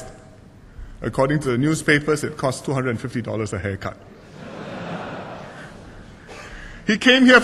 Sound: laughter

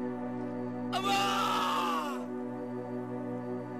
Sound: screams

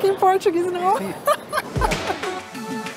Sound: laughs

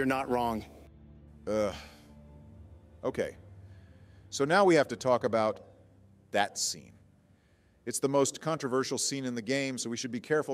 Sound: sigh

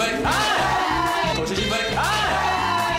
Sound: cheering

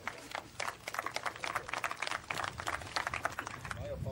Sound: applause

